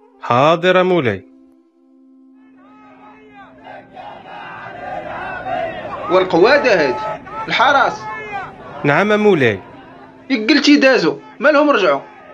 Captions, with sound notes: Okay, lord [People shouting outside the palace again] what Pimp is this?!! guards Yes Lord Didn't you just said they gone why they came back?